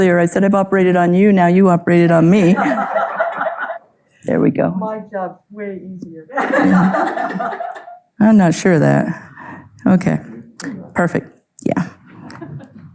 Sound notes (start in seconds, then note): 2.4 audience laughing; 6.3 audience laughing